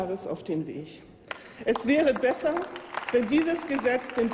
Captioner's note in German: Applaus